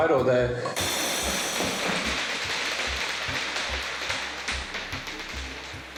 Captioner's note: balls rattle